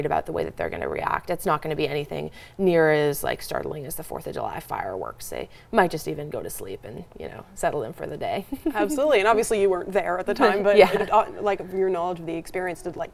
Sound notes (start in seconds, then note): 8.5 laughs